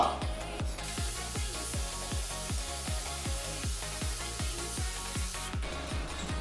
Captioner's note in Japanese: 塗装音